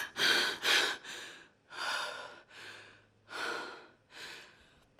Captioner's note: WOMAN breathes deeply